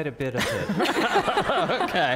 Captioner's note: laughter